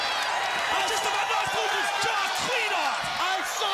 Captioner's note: crowd cheering drowns out commentators